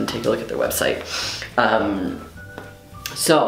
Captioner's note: sniff